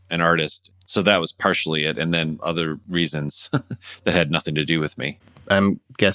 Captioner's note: laughter